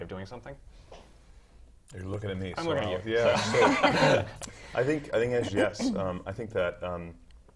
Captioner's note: laugh